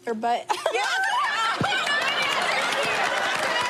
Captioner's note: laughs